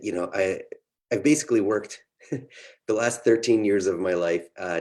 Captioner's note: laughs